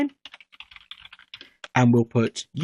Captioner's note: keyboard typing